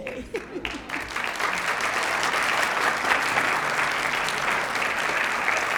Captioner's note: applause